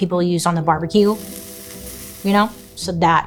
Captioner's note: barbecue sizzles